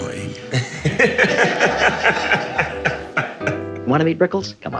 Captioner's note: laughing